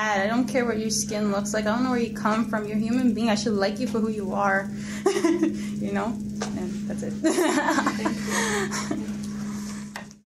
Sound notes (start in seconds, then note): 5.0 laughs; 7.2 laughs